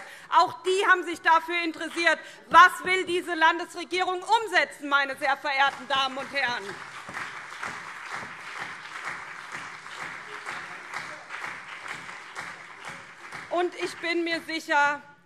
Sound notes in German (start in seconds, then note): 5.6 Beifall SPD und CDU